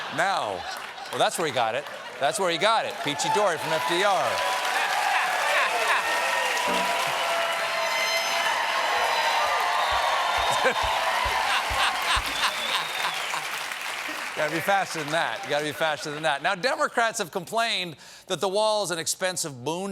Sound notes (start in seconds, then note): 0.2 laughter; 12.9 applause; 12.9 laughter